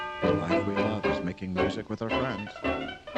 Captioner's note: quietly